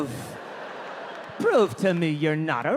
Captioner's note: audience laughing